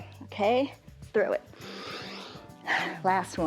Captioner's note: inhales and exhales